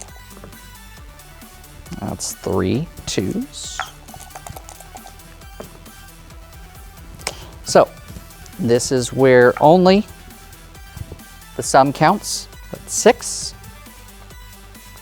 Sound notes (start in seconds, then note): 0.2 dice rolling; 3.5 dice rattling; 5.6 dice rolling